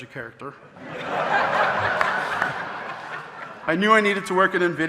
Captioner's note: audience laughing